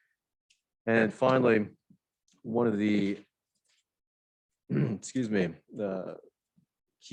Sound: clears throat

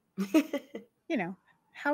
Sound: laughs

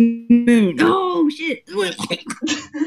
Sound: glitching; laughing; coughing

